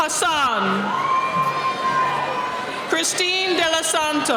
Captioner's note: cheering